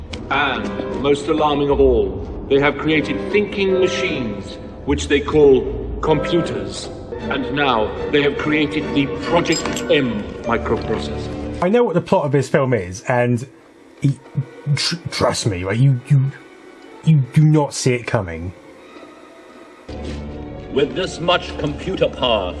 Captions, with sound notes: And most alarming of all, they have created thinking machines, which they call computers, and now they have created the project 'M' microprocessor. I know the plot of this film is and [indistinct sounds of incredulity] trust me, you do not see it coming. [Sinister music] With this much computer power,